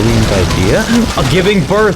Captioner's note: inhales Oxygen